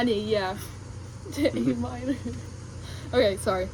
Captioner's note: laughs